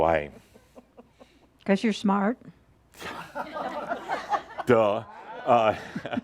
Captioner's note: a few chuckles